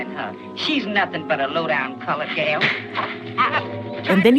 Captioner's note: the sound of a slap